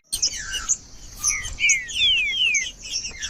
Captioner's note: trinca ferro cantando